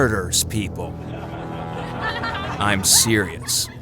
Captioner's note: scattered laughter